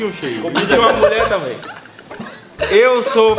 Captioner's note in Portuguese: Risos